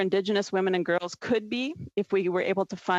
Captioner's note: speaking French